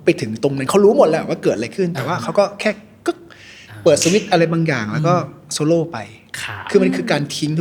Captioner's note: snaps fingers